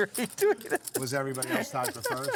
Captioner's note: laughing